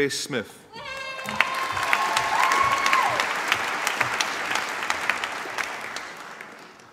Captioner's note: applause